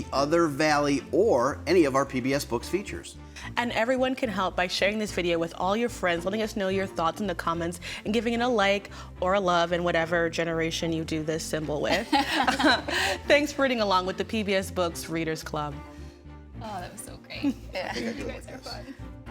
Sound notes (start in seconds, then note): 12.0 hosts laugh; 19.1 graceful orchestral music